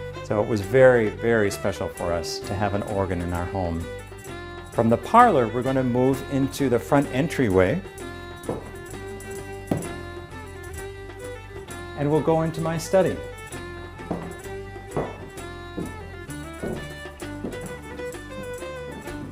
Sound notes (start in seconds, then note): 8.0 upbeat music; 8.4 footsteps; 14.3 upbeat music; 14.7 footsteps